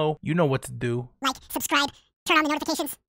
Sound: video cuts/ speeds up, chipmunk voice is back

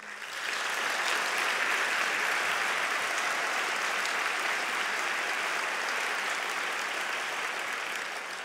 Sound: applause

